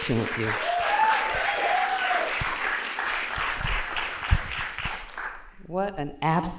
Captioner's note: applause